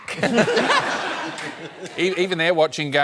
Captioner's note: laughter